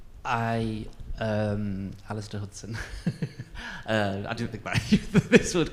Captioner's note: laughs